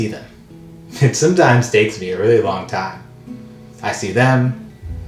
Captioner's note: laughs